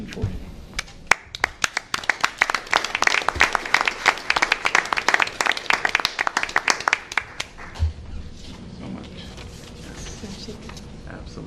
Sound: applause

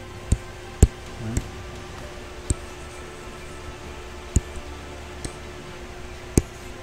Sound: faint techno music; computer mouse tapping

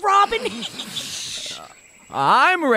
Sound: Merry men snicker on the sidelines

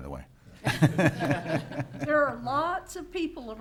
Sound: laughing

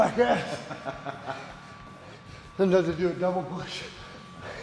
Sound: laugh

